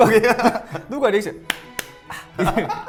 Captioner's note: clap, clap